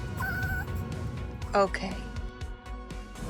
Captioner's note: squeals